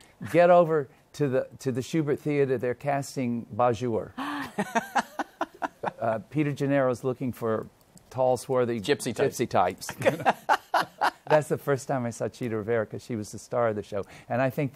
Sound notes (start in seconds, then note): 4.2 laughs; 9.9 laughs